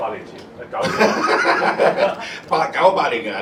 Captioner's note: laughter